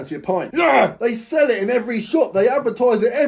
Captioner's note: growls